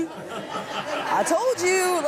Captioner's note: laughs